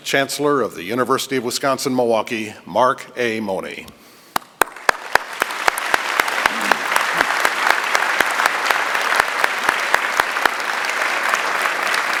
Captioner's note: applause